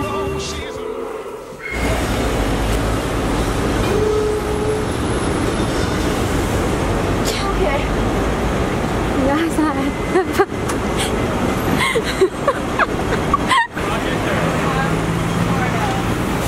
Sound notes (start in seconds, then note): 11.7 laughs